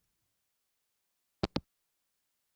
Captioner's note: hangup